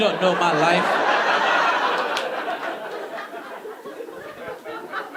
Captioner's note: audience laughing